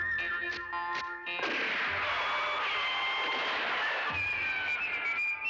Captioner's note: gunshot